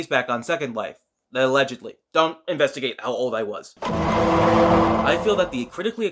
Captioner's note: Law and Order Noise